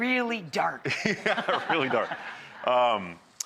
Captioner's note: audience laughs